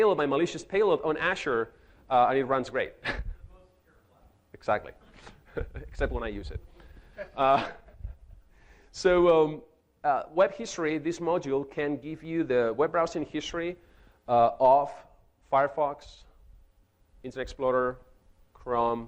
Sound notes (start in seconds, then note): 3.0 chuckles; 5.0 chuckles; 6.9 man laughing